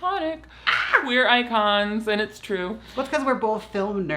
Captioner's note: squeals